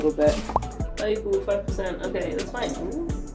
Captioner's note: tap leaks